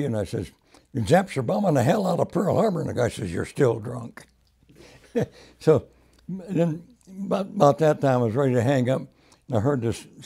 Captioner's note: laughs